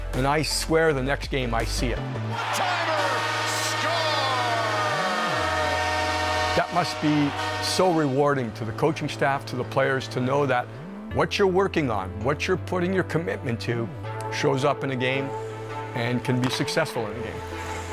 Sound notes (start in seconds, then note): 2.2 crowd cheering; 6.3 horn blowing; 17.7 upbeat music